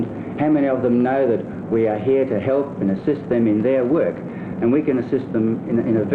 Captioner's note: none